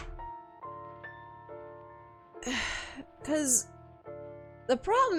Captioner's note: heavy sigh